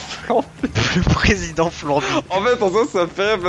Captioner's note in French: rires